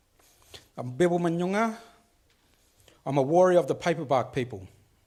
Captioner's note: speaks foreign language